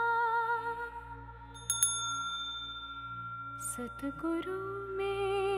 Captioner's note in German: Mooji klingelt die Glocke